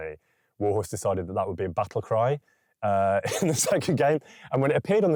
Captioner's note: laughing